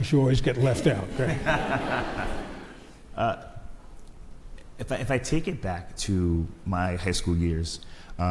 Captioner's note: laughs